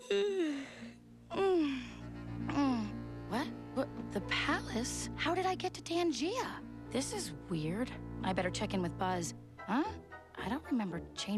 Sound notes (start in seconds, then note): 0.0 yawns